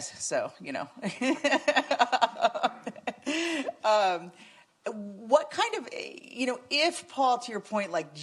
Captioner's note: laughs